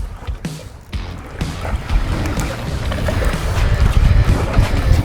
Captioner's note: water swishing